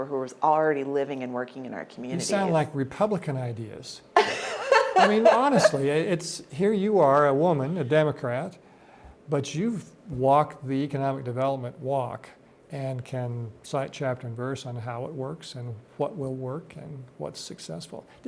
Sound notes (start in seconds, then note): 4.2 laughs